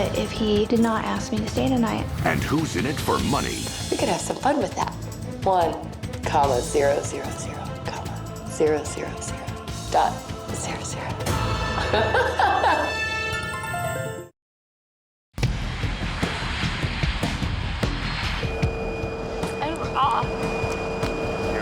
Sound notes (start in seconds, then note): 11.8 laughs; 15.3 gentle rock music